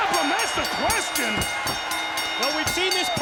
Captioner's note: bell rings